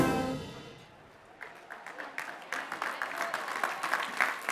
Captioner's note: clapping